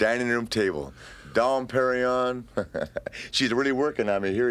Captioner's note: laughs